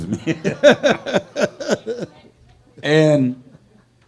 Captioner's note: laughing; laughs